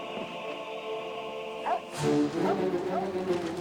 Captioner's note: dog barking